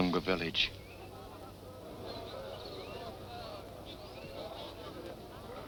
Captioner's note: people chattering